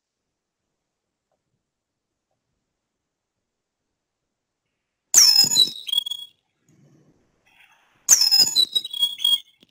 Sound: sound effect

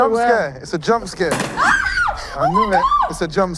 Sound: balloons popping and contestants screaming

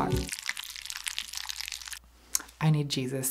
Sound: macaroni stirring sound

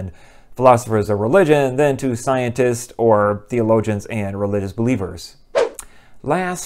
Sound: swoosh

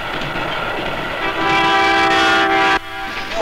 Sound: train horn blares

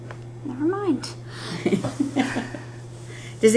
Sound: laughter

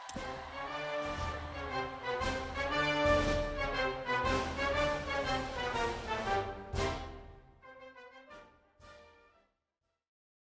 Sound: applause

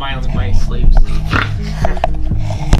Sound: laughing; snores

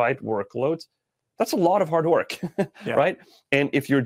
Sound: chuckles

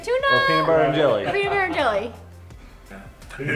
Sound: laughing

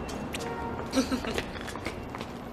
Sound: woman giggles

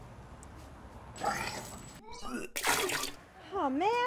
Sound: child vomiting

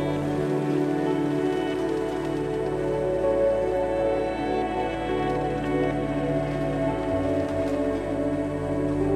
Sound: steps

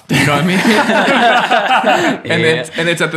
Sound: laughs happily

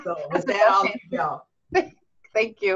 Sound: laughing

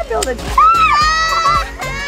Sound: yelling; laughing

